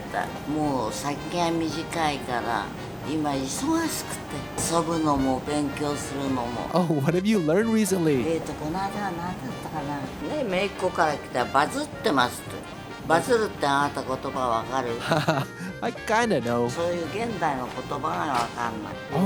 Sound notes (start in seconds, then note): 12.9 laugh